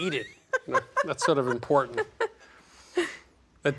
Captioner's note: laughing